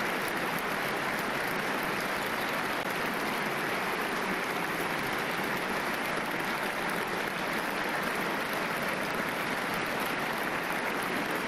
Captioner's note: applause and cheers